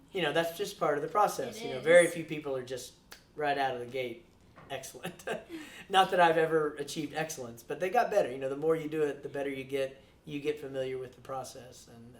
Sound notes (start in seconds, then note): 5.0 laughs